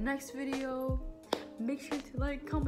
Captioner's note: clap